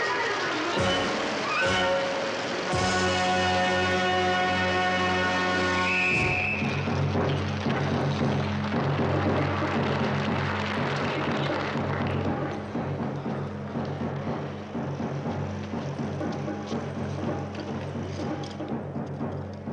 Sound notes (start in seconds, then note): 5.6 whistle shrills; 7.8 tribal drum music